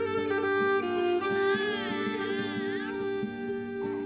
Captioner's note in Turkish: Bebek ağlıyor